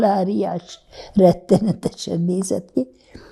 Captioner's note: laughing